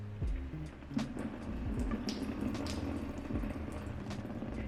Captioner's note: water dripping